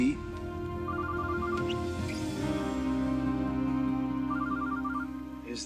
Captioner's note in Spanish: suena el celular